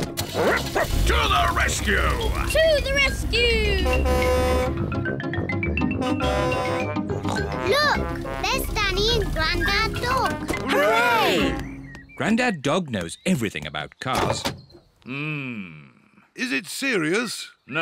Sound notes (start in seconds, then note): 0.3 barks; 3.6 horn blares; 7.2 snorts